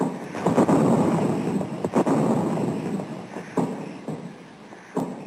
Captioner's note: gentle music; bombs exploding